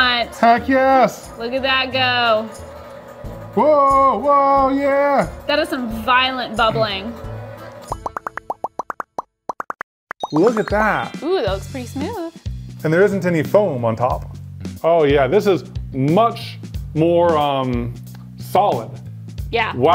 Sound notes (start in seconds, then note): 3.4 cheering; 7.9 bubbles popping